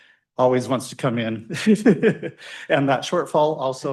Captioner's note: laughs